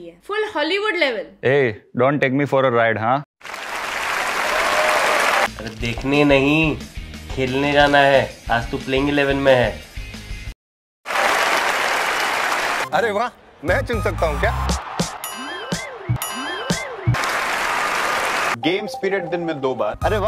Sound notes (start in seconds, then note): 11.0 a round of applause; 15.2 the confusion sound effect